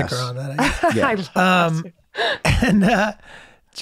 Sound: Megan laughs

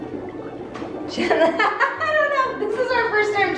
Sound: laughs

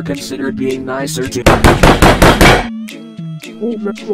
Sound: gentle knocks

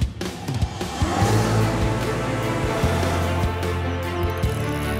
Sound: engine revving

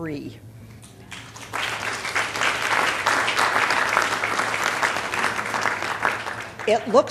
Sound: applause

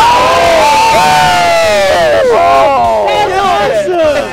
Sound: all shouting

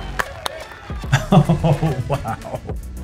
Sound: chuckles

